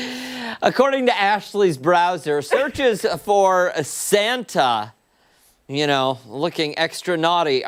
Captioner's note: laughter